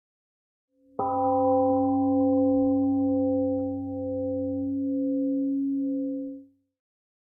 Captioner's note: temple gong rings and fades